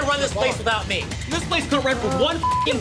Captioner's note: beep